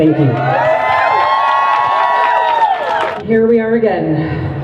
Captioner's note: crowd cheers